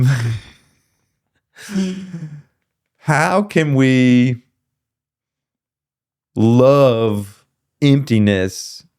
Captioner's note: laughing